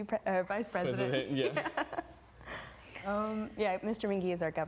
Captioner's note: laughing